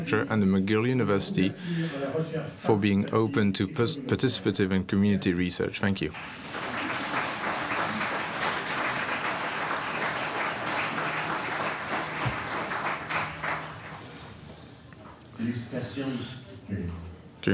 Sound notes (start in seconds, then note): 10.5 applause